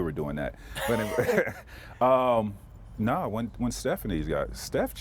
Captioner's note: laughter